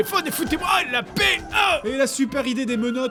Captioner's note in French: Aah